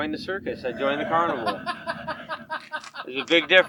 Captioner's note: man laughing